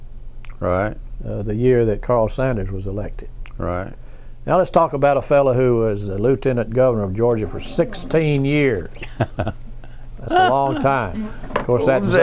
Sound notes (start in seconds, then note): 10.1 laughs